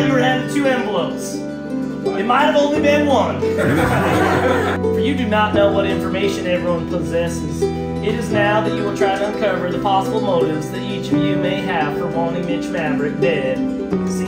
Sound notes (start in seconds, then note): 3.6 all laugh